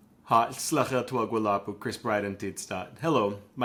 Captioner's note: speaking in Lushootseed language